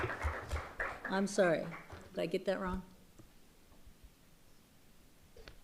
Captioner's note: applause